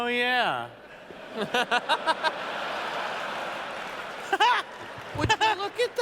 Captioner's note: laughter